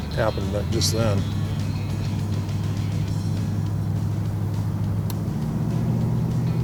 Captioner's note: engine roaring; upbeat music